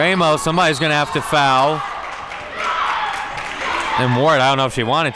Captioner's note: whistle blows